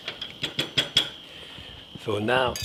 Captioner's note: pan thumping